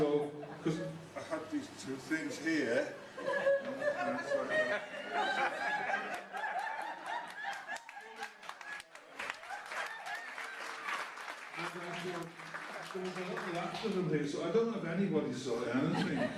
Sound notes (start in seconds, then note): 4.3 laughter and Applause